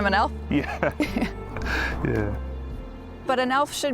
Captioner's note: laughs